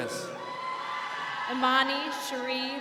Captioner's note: crowd cheering